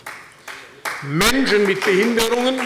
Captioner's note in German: Beifall bei der SPD